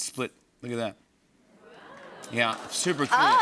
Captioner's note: audience "Oohs"